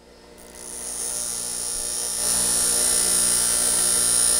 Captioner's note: tool grinds